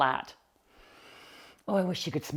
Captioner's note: inhaling deeply